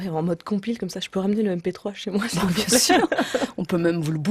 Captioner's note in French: rires